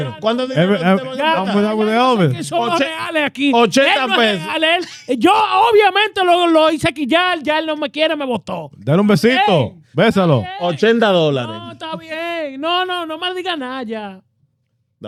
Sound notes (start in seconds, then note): 2.4 speaking In Foreign Language